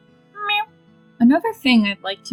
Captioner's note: meowing